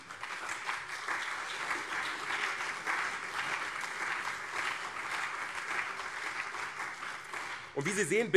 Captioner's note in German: Beifall CDU und SPD